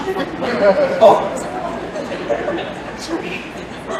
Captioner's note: murmuring and laughter